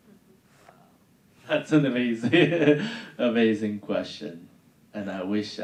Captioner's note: laughing